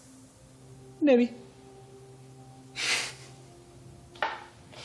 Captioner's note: laughs